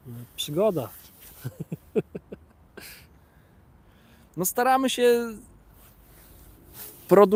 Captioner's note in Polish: śmiech